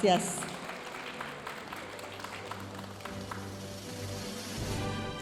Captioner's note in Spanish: aplausos de la audiencia